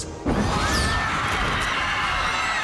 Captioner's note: students screaming